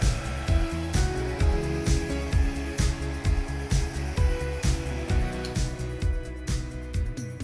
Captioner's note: blower whirring continues; pleasant music continues